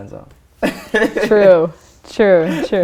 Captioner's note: laughter